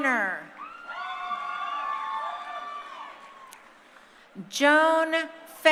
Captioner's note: crowd cheering